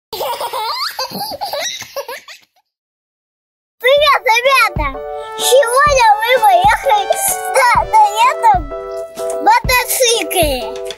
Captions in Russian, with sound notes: [детский смех] Привет ребята! Сегодня мы будем кататься на классном мотоцикле BMW S1000RR